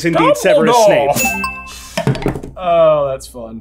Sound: melodic chime

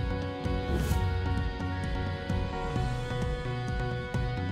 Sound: whoosh

